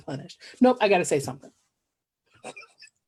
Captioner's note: laughs